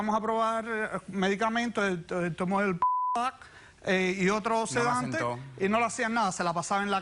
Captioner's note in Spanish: Bip